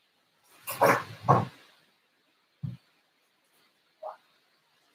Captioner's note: mysterious thudding